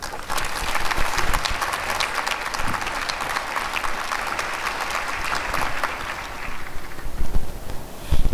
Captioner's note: applause